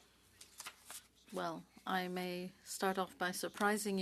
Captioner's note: speaking French